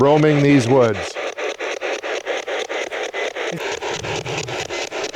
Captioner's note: static ticking